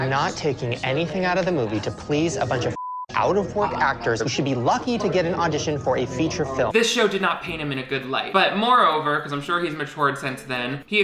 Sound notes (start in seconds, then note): 2.7 beep